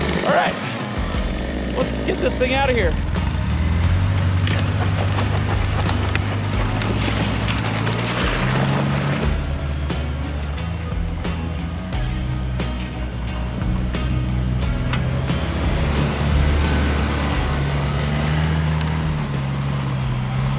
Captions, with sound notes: All right, let's get this thing outta here. (engine rumbling) (upbeat music) (engine rumbling continues) (upbeat music continues)